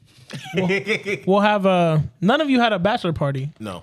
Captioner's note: laughing